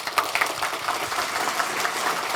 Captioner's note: applause